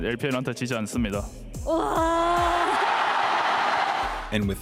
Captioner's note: interviewer and crowd cheer loudly